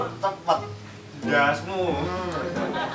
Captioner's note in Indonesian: haha